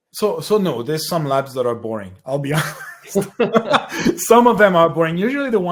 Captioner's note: laughs